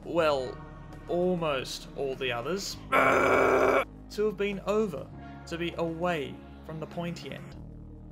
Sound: primal screaming

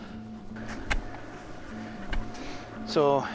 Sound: shovel digging

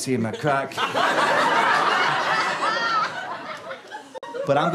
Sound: audience laughter

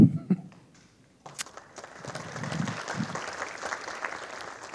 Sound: audience applauding

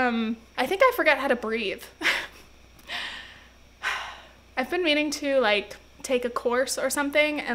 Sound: laughs & sighs

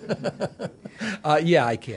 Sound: laughter

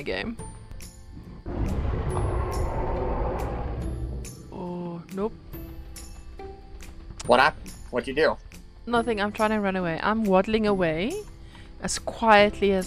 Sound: distant Roar again

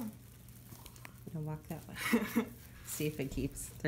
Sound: laughter

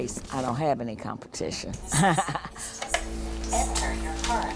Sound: laughs

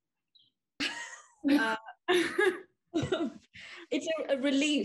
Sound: all laugh

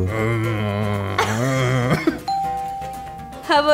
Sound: groaning sound; laughter

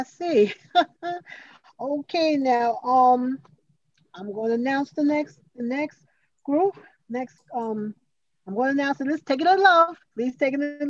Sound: laughs

